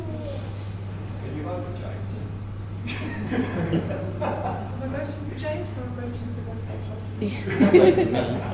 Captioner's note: laughter